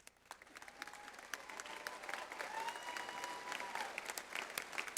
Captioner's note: audience applauds